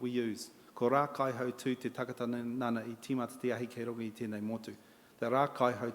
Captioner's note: in Maori